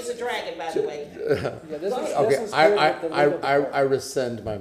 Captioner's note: laughter